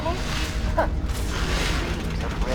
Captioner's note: laughs